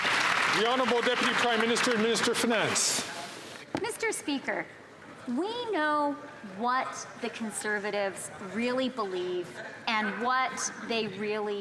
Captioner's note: some Applause